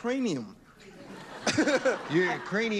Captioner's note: laughter